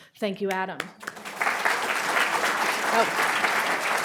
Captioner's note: audience applauding